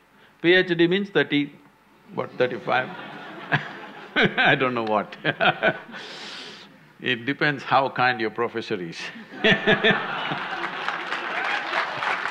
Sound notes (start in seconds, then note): 2.5 laughter; 6.2 laughs; 9.4 laughter/Applause